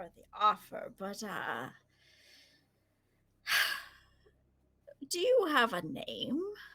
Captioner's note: sighs